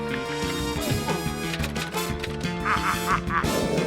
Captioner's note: frenetic music; typewriter clacks; laughs evilly